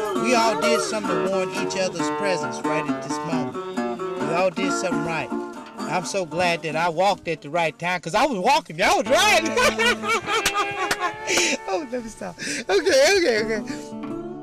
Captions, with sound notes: We all did something to warrant each other's presence right at this moment. We all did something right. I'm so glad that I walked at the right time, because I was walking, y'all was ridin' *laughing* Okay let me stop, okay okay.